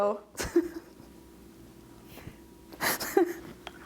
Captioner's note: laughing